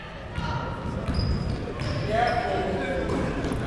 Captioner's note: people talking in the crowd